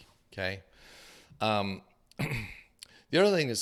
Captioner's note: clears throat